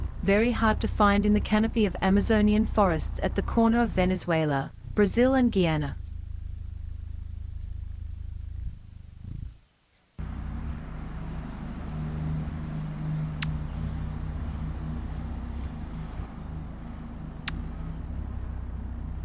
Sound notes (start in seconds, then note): 6.4 bird wings flapping; 6.4 birds chirping